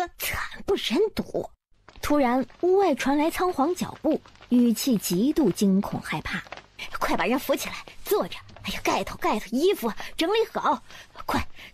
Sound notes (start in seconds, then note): 3.4 footsteps